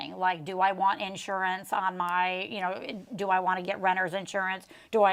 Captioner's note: none